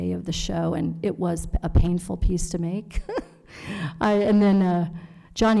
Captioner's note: laughs